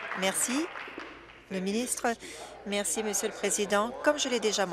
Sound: applause

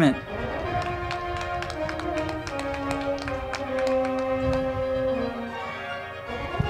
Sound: band music; crowd clapping

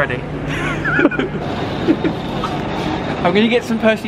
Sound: laughter

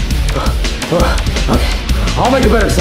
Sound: Mario panting

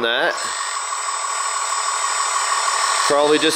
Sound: lift lowers

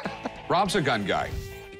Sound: laughs

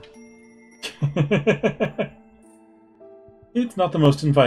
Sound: laughs

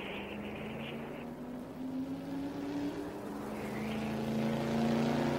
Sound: engine roaring

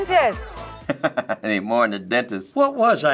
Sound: chuckling

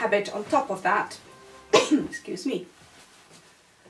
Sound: coughs

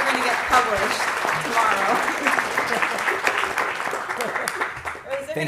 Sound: applause

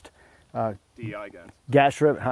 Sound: voiceover

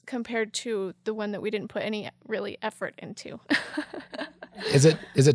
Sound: laughing

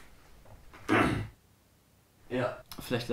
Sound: clears throat

